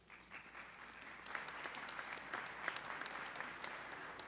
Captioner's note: audience applauding